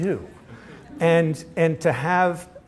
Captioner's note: laughter